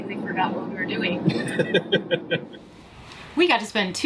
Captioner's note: laughing